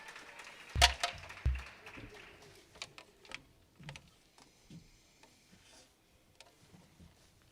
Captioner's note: attendees clapping and cheering; attendees clapping; object clinks